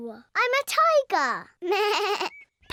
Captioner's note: bleats